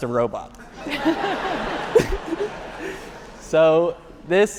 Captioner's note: audience laughing